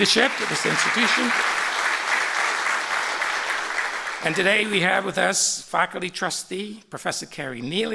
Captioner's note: applause